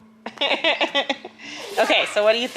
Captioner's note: laughs